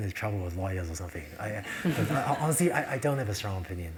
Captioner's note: laugh